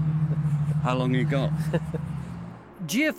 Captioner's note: laughing